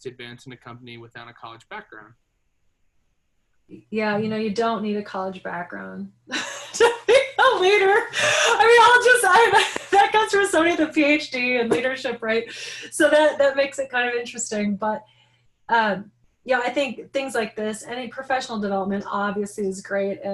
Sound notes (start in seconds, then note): 6.4 laughing hysterically